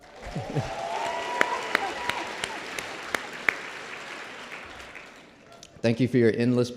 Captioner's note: applause